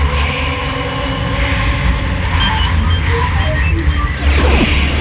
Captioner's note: voices whispering